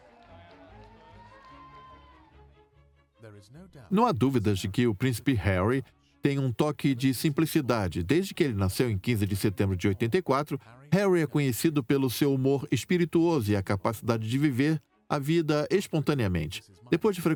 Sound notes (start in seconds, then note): 1.9 voiceover